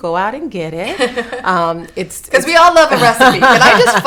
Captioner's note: laughing